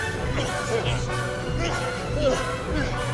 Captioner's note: punching, grunting, etc